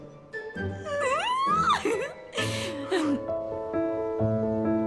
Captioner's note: excited chuckles